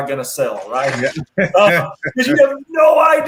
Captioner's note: laughs